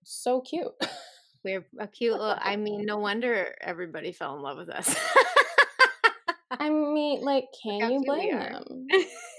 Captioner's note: laughter